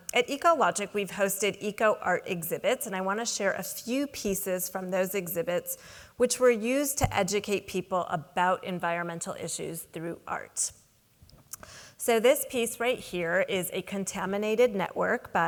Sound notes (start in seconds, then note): none